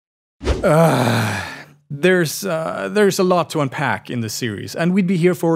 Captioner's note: groans